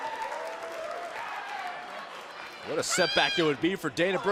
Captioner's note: crowd cheering